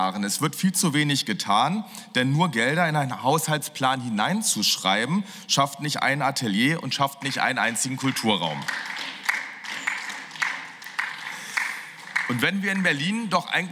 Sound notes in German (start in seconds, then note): 9.0 Beifall